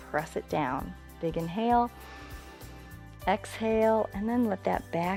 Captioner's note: inhales